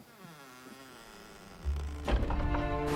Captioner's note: door creaks